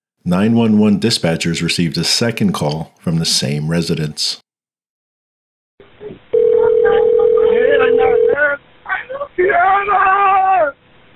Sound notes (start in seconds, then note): 6.2 distant yelling; 6.3 dial tone ringing